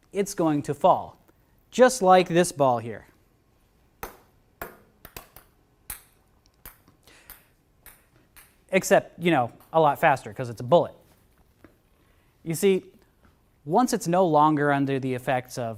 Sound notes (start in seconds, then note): 4.0 ball thudding